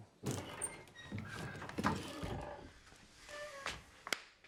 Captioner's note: door creaking